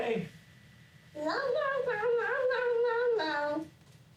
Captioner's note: nonsense mumbling